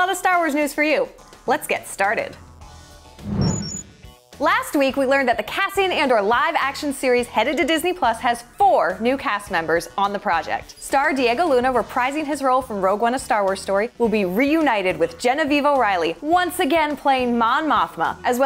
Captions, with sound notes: of Star Wars news for you. Let's get started. [BEEPING] Last week, we learned that the Cassian Andor live action series headed to Disney+ has four new cast members on the project. Star Diego Luna reprising his role from "Rogue One-- A Star Wars Story" will be reunited with Genevieve O'Reilly once again playing Mon Mothma, as